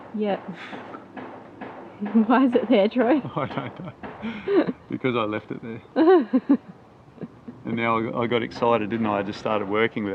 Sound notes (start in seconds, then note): 3.1 chuckling; 4.2 laughing